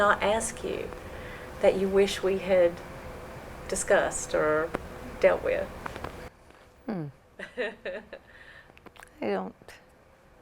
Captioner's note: laughter